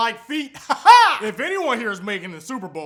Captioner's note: weird laughter